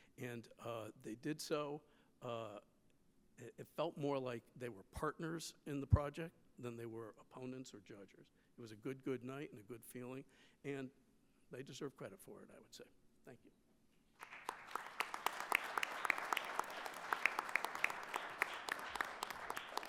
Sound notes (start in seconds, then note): 14.2 attendees applauding